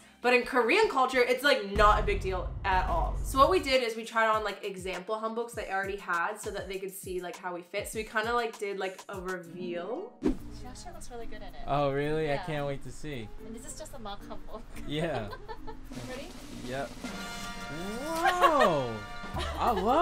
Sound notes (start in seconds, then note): 14.7 laughs; 15.9 drum rolling